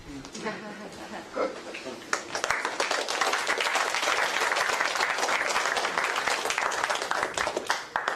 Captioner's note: applause